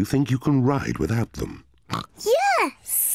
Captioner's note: snorts